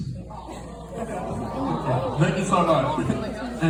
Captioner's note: disappointed audience